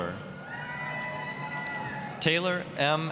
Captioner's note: applause, cheering